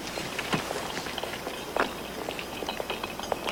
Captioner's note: footsteps; rattling of jars